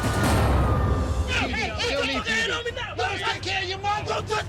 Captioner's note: man shouting